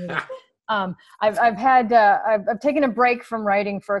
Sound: laughs

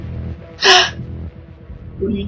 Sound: gasp

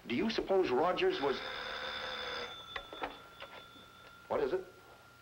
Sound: phone ringing

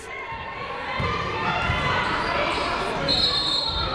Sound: people shouting in the crowd; whistle tweeting

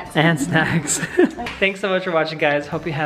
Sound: laughing

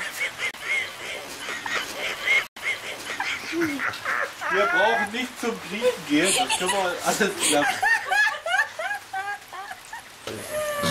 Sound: evil, evil laughter

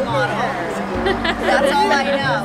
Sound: laughing

